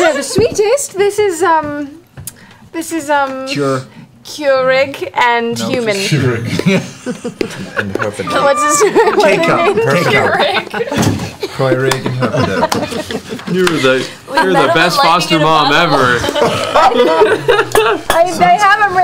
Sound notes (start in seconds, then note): 6.5 laughter